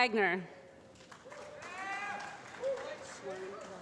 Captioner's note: applause